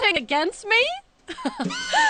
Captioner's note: laughing